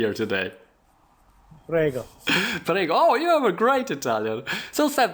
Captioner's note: laughing